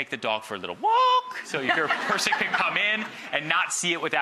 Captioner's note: audience laughing